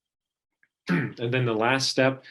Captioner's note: clearing throat